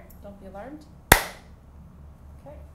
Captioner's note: sound of hands clapping